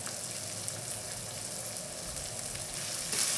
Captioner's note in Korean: 치익..소리